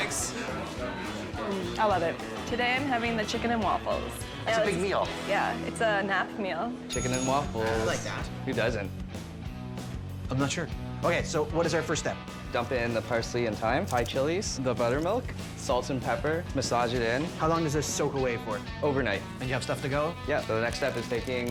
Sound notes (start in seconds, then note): 6.9 bell dinging; 10.3 energetic rock and roll music